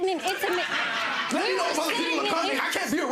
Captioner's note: audience laughing